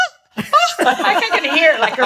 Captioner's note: laughs